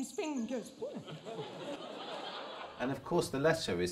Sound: audience laughs

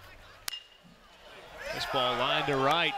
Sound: ball hitting bat

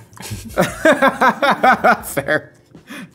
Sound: laughing

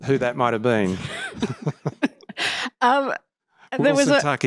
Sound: laughter

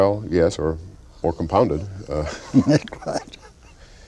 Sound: chuckles

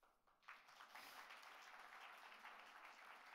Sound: applauds

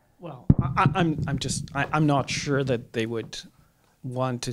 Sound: voiceover

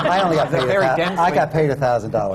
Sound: laughter

